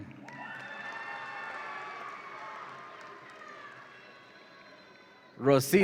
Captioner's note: audience applauds and cheers